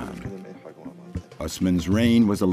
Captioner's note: speaking in a foreign language